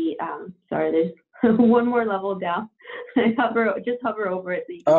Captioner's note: chuckles